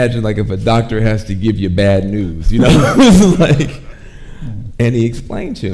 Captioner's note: laughs